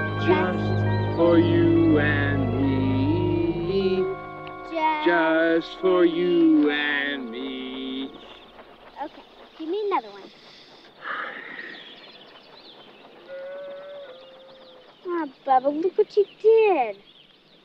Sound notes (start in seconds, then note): 10.0 Bubba sniffing; 13.3 cow lowing nearby